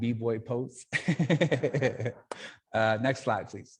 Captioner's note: laughing